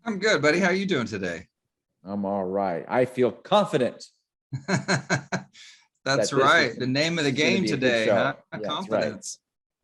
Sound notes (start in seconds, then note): 4.6 laughs